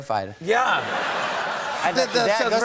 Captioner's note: cheers and applause; laughter